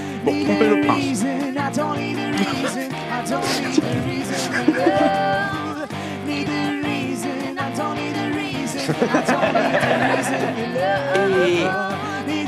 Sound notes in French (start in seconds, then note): 3.2 Rire; 8.7 Rires